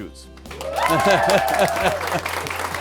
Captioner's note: students cheering; laughs; students applauding